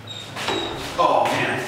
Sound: door squeaking

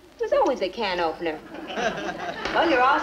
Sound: audience laughs

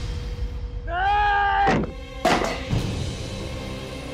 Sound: thud

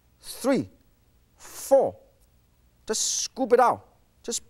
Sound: none

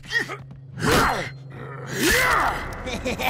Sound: grunting; laughing

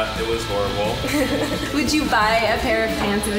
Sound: laughs

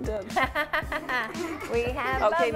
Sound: laughs

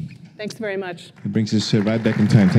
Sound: applause

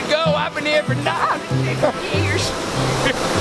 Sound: laughs

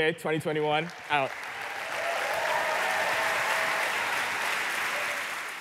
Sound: applause

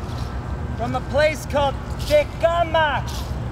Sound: speaking in foreign language

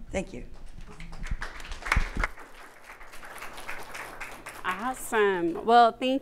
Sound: audience applauds

